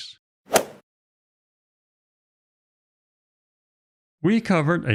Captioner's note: golf ball hit sound effect